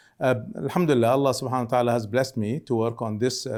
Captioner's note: speaking Arabic